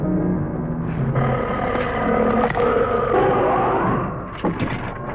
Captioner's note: Pete as the monster roaring